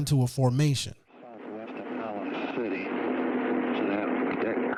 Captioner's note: mutters